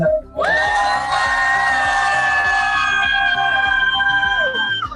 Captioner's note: cheering